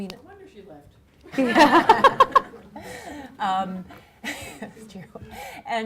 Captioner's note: audience laughing